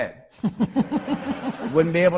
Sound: laughing

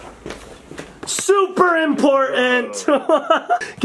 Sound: yelling; laughing

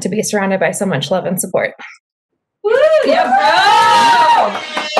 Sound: cheering

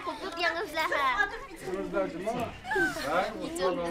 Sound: children speaking Uyghur

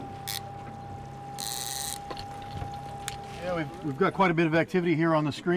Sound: reel spinning

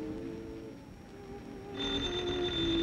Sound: doorbell ringing

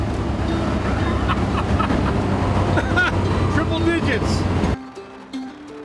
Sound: laughs

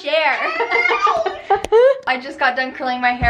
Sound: laughing

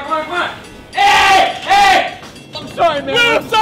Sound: screaming

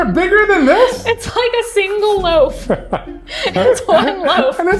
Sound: laughs

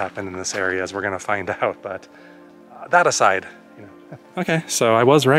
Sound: laughs

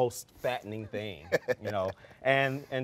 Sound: laughing

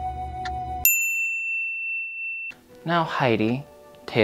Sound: peaceful music; bell dinging

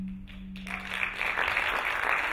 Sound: applauding

